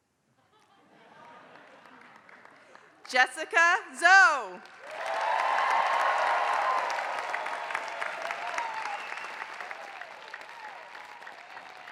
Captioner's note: applause